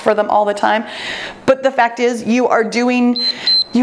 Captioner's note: timer beeps